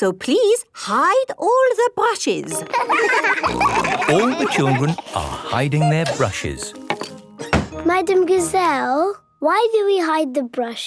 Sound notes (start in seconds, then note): 2.5 laughter; 2.9 snorting